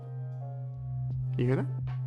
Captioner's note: tuning fork buzzing